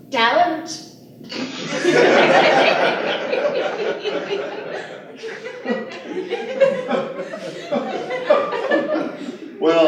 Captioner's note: laughter